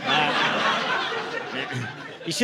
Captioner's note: laughter